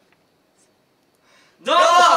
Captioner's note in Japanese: 小声